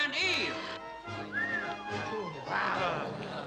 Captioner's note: onlooker whistles; crowd murmurs